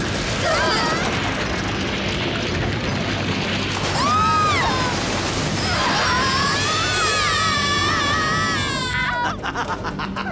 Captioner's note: scream